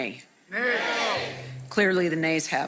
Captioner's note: group nay